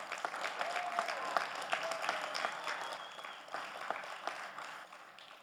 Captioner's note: audience applauding